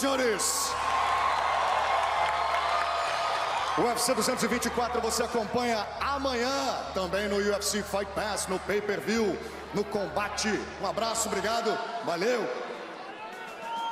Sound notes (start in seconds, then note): 5.0 cheering; 8.0 speaking foreign language